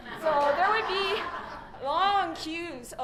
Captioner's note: laughter